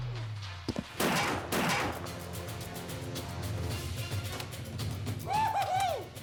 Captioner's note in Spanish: continúan los balazos